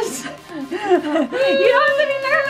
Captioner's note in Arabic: يضحكون